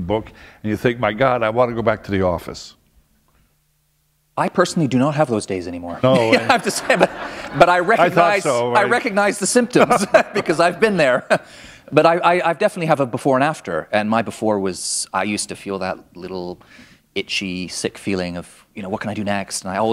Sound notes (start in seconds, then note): 6.0 laughter